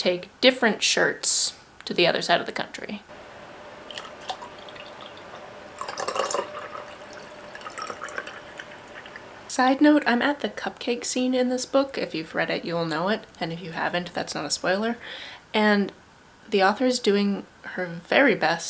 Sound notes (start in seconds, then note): 3.7 liquid pouring sounds